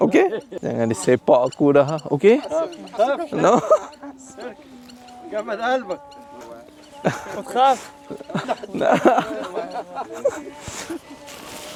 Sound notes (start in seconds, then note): 2.9 speaking Arabic; 6.6 laugh; 7.0 speaking Arabic; 8.8 laugh